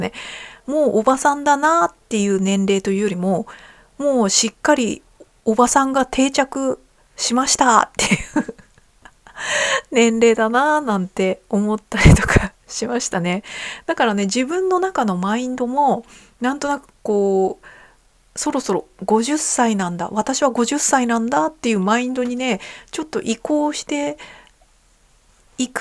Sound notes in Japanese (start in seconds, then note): 8.0 笑い; 9.0 息をのむ音